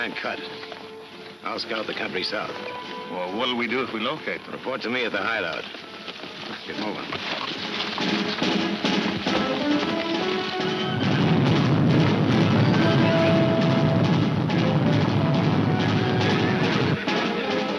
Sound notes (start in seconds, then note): 7.1 dramatic music; 10.0 stampede rumbling